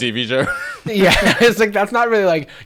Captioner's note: laughing